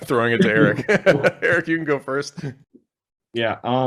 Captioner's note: laughs